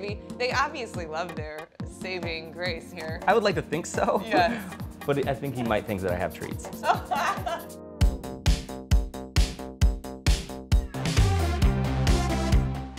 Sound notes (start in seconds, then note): 6.6 laughs; 8.2 electronic dance music